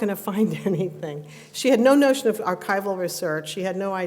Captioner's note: laughs